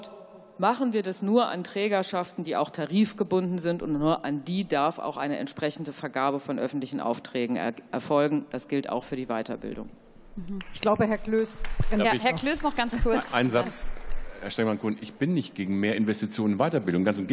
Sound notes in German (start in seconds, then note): 10.6 Beifall